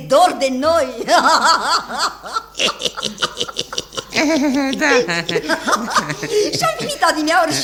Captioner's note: laughter